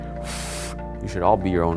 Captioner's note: blowing